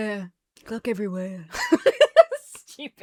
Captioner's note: laughs